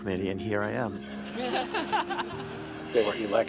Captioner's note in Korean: 웃음